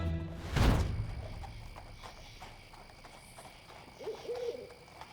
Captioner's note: crickets chirping; owl hooting